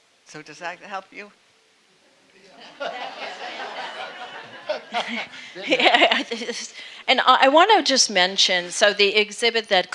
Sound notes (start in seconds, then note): 2.5 audience laughing; 5.8 laughing